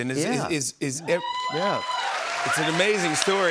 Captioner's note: cheers and applause